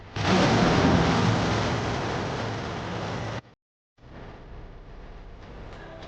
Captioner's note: explosion booms; somber vocal music